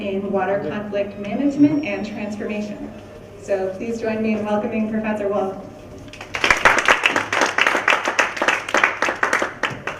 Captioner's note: clapping